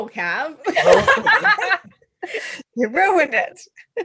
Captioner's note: laughter